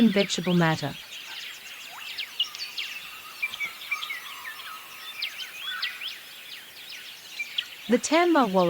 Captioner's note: birds' chirping